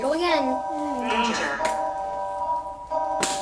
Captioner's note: synthetic voice